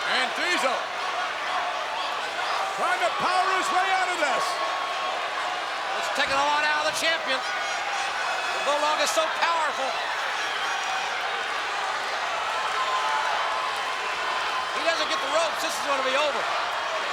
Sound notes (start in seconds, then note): 10.2 crowd cheering